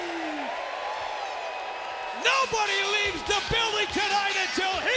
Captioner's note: applause